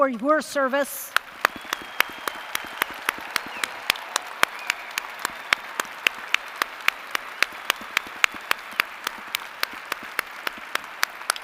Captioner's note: applause & cheers